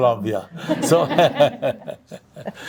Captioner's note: laughing